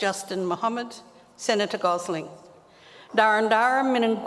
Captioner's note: speaks native language